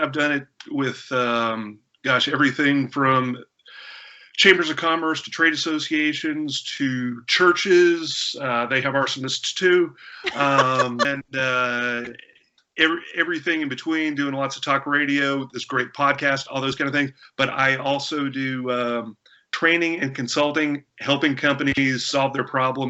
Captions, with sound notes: with gosh everything from chambers of commerce to trade associations to churches - they have arsonists, too (Laughter) - and everything in between doing lots of talk radio, this great podcast, all those kind of things, but I also do training and consulting helping companies solve their problems from the inside deal with the